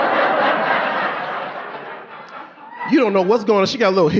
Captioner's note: audience laughing